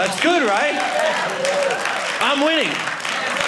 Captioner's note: audience applauding